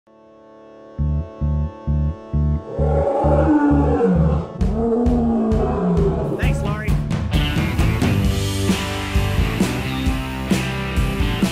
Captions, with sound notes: (upbeat music begins) (lion roars) - Thanks Lori. (upbeat music continues)